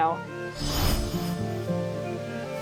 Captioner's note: magical teleportation noise